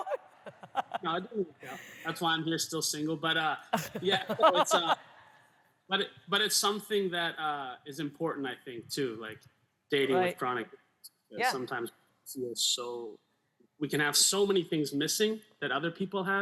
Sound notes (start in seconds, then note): 0.0 laughs; 3.7 laughter